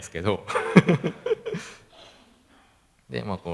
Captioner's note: laughs